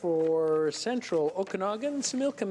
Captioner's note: speaking French